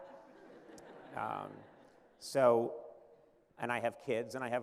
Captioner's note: laughter